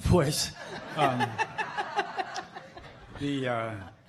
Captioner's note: laughing